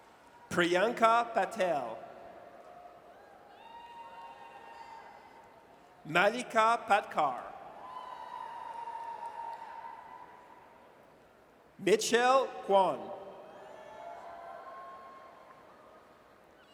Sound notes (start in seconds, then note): 3.3 audience cheers; 7.8 audience cheers; 13.4 audience cheers